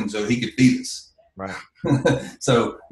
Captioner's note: laughs